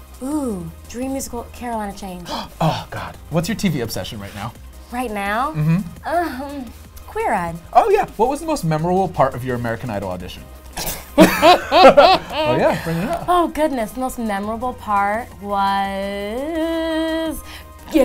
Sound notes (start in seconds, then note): 2.2 gasps; 11.2 laughing